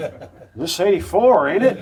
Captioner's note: spectators laugh